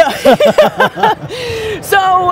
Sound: laugh

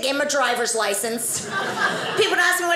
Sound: audience laughing

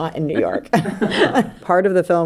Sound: laughing

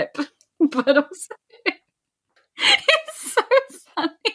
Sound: laughing

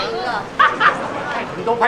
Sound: erupting in laughter

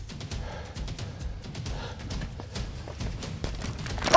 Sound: dramatic music; panting

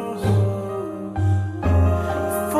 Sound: ahhhhhhh

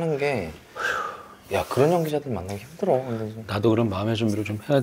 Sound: sigh

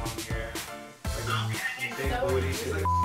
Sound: chattering

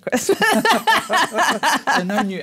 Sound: laugh

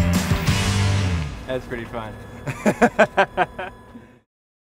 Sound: laughter

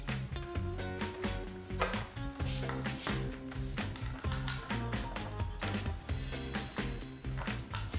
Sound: none

